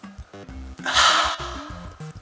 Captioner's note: exhales